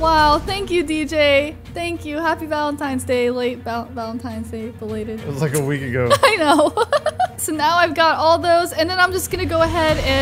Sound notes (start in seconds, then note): 6.0 laughs